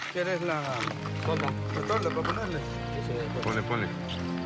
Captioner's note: Spanish language